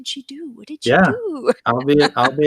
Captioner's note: chuckles